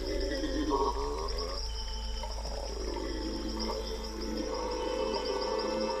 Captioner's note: chatters